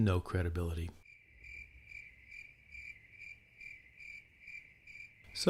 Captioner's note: crickets chirping